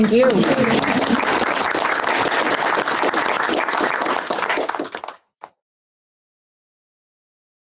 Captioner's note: applause